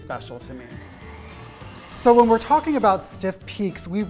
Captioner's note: mixer whirring